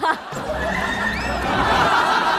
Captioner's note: hahahaha